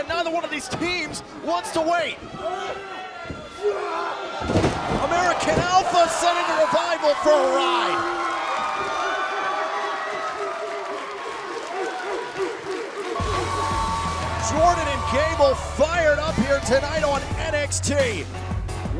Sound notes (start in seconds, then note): 8.0 crowd cheering